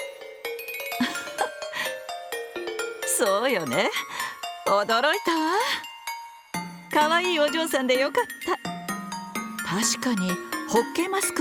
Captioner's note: laugh